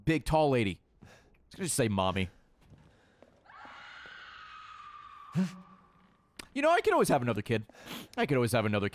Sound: screams

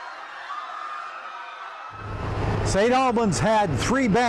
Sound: people screaming

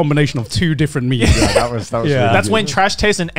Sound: laughter

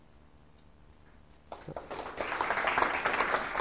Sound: applause

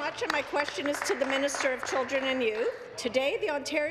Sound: applause

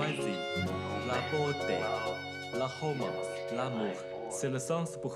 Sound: French

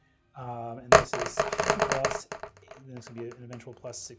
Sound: dice rolling

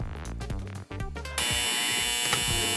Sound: buzzer

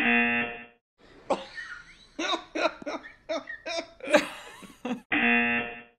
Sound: cameraman laughing

